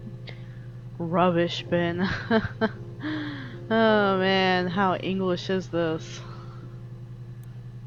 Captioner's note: laughs